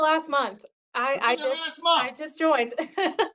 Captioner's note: laughter